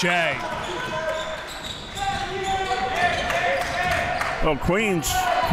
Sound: crowd cheering

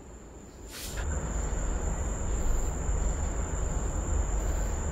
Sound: crickets chirping

